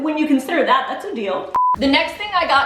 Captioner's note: beeping